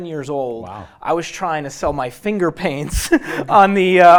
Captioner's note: laughs